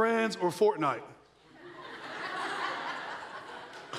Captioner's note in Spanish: risas de la audiencia